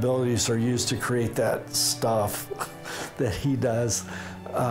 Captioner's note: chuckles